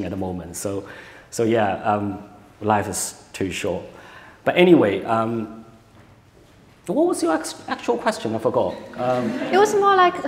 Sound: laughter

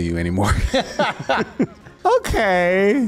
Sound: laughs

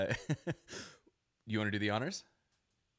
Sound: laughs

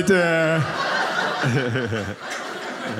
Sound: audience laughing

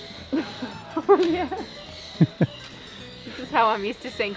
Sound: birds caw; chuckles

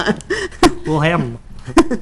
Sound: laughing

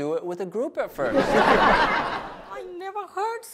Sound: audience laughs

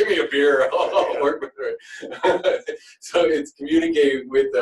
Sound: laughter

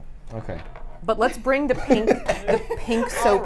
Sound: laughs

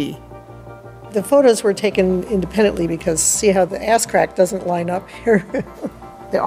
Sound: laughs

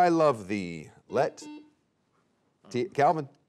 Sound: buzzer beeping

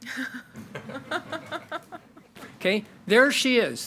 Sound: board members and attendees chuckle

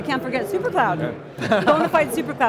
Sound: laughs

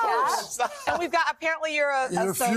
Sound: laughter

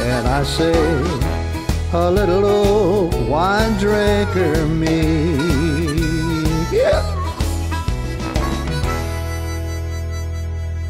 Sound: coyote howls

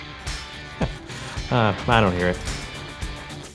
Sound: laughs

